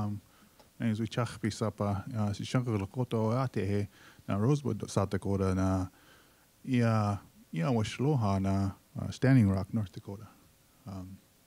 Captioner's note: speaking Lakota